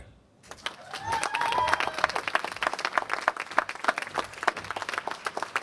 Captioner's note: applause